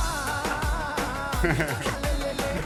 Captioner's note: laughs